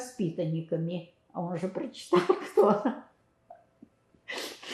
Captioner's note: laughing